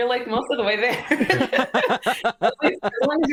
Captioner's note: laughter